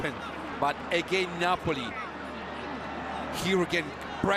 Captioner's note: audience oohs